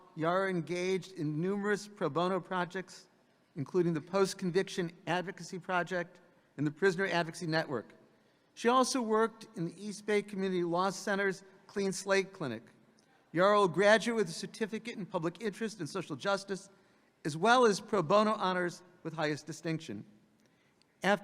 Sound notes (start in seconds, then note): none